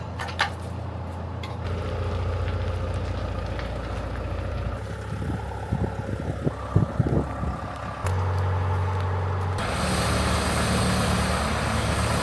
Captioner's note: engine noise